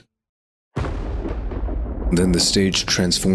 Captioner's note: thunder